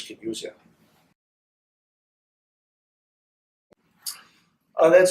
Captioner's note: silence